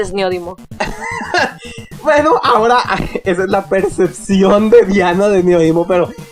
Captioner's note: chuckle